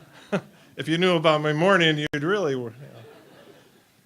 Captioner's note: laughter